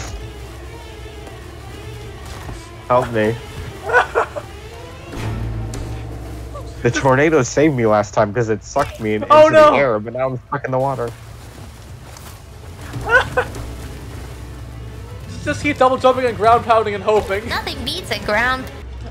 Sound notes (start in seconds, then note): 3.8 laughter; 13.0 more laughter